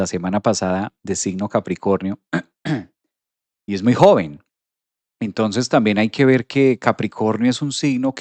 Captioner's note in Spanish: carraspeo